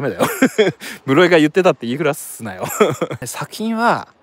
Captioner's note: laughs